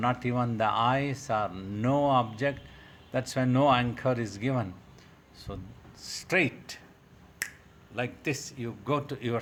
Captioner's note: clicks fingers